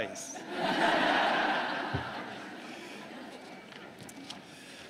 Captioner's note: laughter